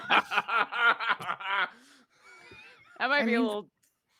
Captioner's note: laughs